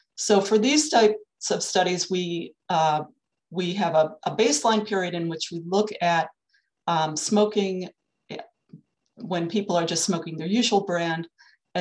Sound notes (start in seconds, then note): none